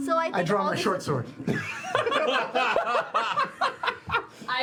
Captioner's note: laughter